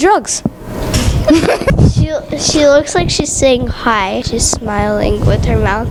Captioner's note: chuckles